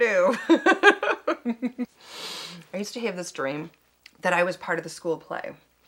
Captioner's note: chuckles